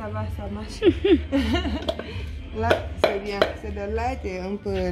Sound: laughs

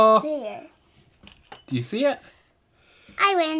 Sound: voiceover

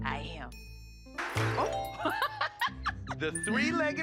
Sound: laughs

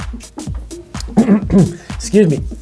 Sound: clears throat

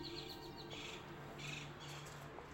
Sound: bird squawking

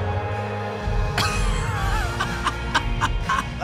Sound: Derek laughing hysterically

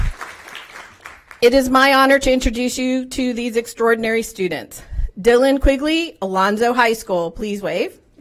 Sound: applause

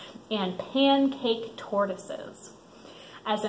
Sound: none

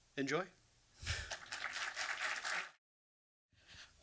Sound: audience applause

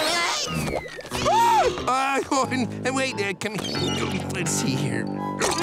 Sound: screaming

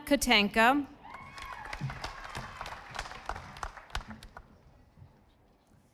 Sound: audience applauding

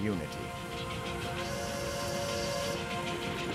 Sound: steam whistle blowing

